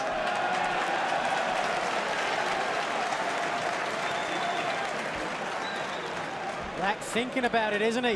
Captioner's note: crowd cheering